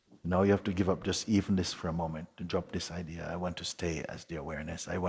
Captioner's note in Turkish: none